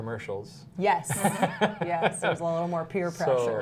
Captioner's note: laughter